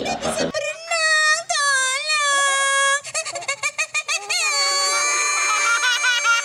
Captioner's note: cries